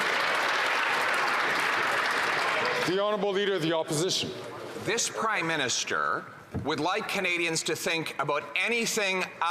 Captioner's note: some Applause